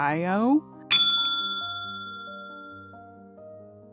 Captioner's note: ding!